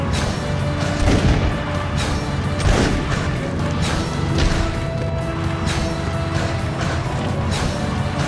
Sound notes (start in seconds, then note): 0.1 gun firing; 6.0 dramatic music